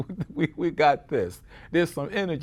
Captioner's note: chuckles